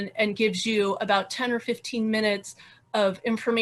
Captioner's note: none